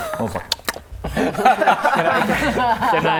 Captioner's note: greedy laughter